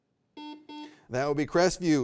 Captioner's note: buzzer beeping